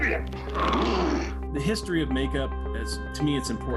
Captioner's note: growl